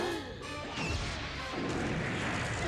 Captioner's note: all gasp